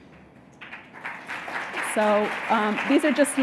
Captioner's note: audience clapping